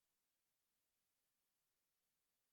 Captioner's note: none